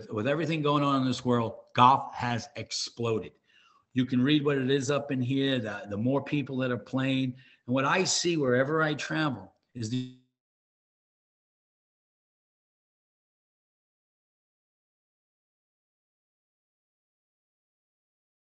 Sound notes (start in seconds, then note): 13.9 audio cut out